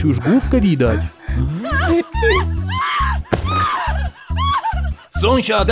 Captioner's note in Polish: krzyki